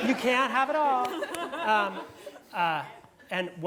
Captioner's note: laugh